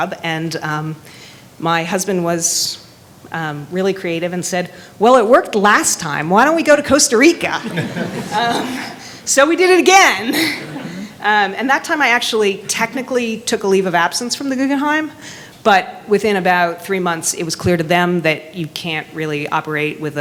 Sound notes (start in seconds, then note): 7.5 attendees laughing